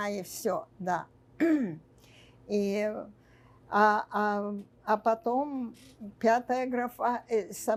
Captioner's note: clears throat